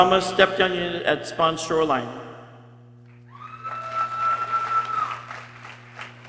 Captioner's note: people cheering